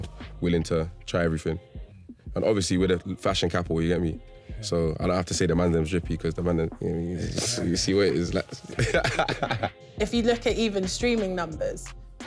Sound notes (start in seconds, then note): 8.5 laughing